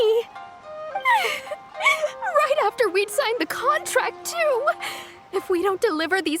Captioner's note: crying